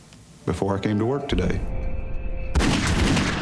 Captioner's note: gunfire